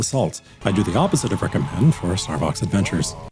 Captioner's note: screams of the damned return